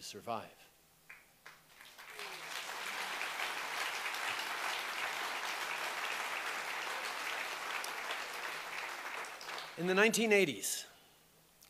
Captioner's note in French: Applaudissements